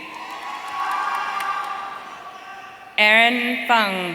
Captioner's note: audience cheering